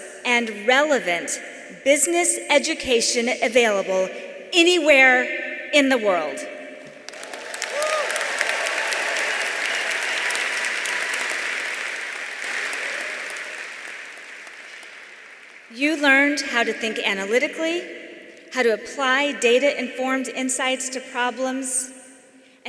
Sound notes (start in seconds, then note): 6.8 audience applauding; 6.9 audience cheering